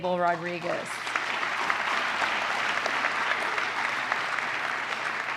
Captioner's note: applause